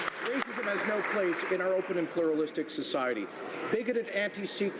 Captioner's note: some Applause